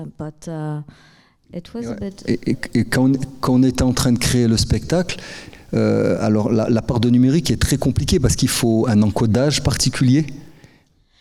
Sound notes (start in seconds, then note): 1.9 speaking in French